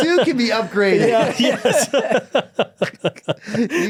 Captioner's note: group laughing